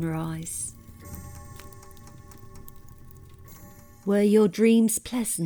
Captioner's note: grandfather clock chiming